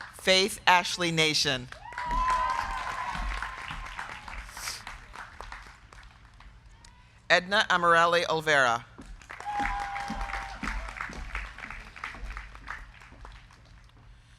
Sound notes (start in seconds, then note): 0.0 crowd cheering; 0.0 crowd clapping; 1.5 crowd clapping; 1.8 crowd cheering; 9.0 crowd clapping; 9.2 crowd cheering